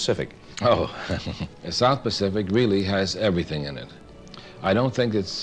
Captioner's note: laughs